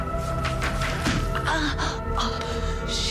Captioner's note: pained groaning